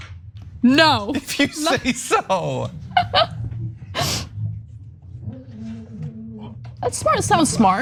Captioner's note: laugh